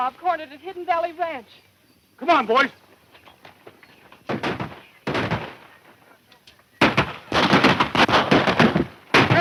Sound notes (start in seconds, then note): 4.5 guns firing